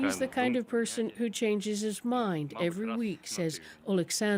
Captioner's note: speaking alternate language